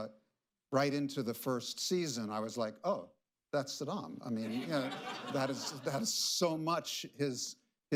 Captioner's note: laughter